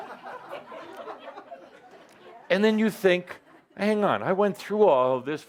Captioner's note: laughter